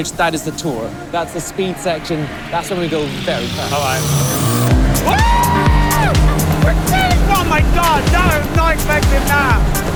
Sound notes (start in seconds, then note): 5.0 screams